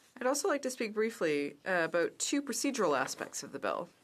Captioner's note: speaking in french